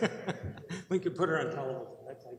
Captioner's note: laughter